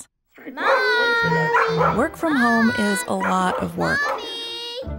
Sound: dog barking

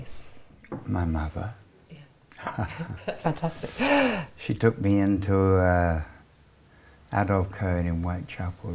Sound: laughing

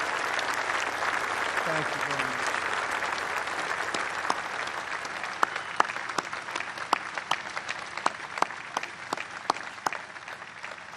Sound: applause

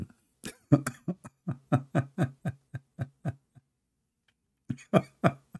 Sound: Ketawa

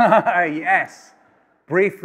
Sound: laughs

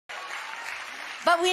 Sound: congregation clapping

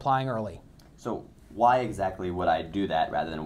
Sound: voiceover

